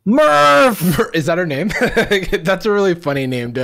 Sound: laughs

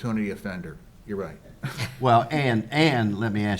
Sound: all chuckles

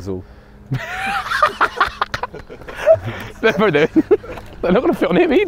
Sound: men laughing

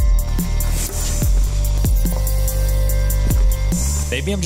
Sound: arrow whizzing

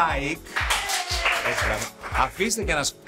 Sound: applause

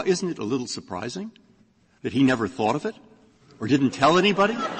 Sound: laughter

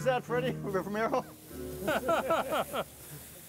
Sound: laughs

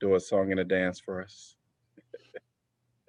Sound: laughter

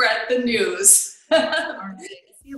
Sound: laughs

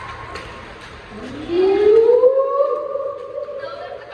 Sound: whooping

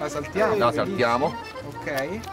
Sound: speaking in foreign language

